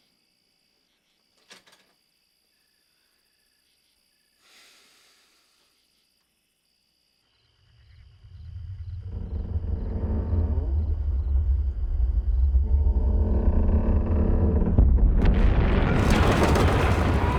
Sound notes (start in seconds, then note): 8.5 ground rumbling